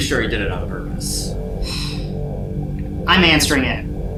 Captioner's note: sighs